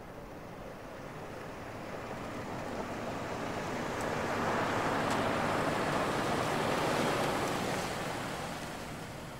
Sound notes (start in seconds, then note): 5.6 car tires humming